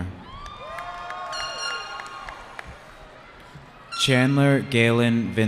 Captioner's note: cheering